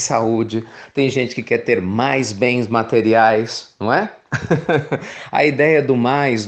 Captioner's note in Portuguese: Risos